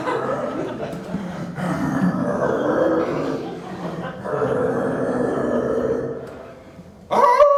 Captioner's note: wicked laughter; growling continues and gets deeper; howling